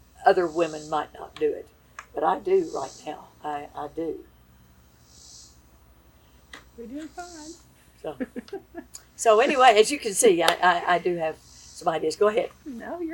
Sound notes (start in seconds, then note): 8.0 laughs